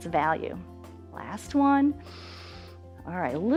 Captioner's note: inhales